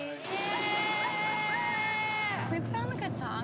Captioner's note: girls cheering